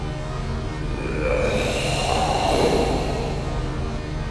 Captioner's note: growls Louder